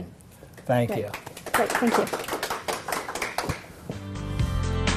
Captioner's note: applause